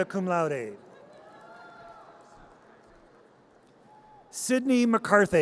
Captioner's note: audience cheers